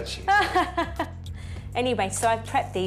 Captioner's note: laughs